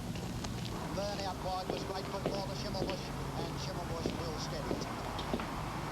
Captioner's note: horse racing playing on radio